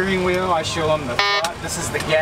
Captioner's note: beep